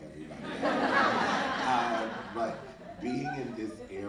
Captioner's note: audience laughing